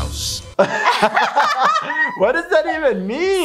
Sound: both laugh

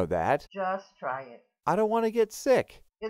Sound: voiceover

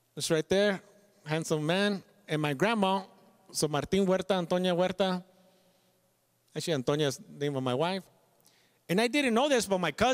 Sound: speaks Spanish

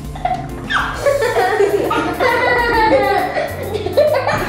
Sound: laughing

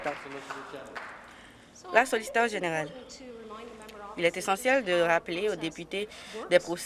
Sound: applause

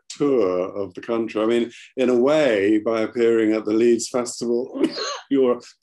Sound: coughs

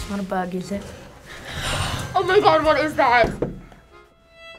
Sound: gasping

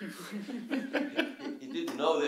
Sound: laughter

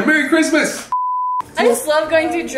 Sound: beep

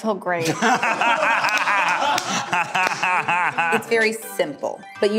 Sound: laughing

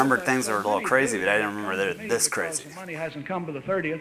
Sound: voice on tape recorder

